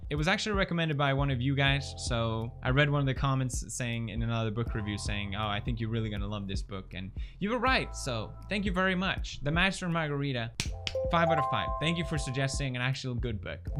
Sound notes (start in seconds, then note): 10.6 clap clap